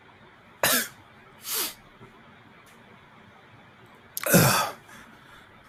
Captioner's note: coughs and sniffs; groans